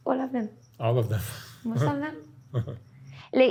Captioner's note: laughs